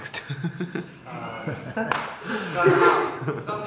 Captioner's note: laughs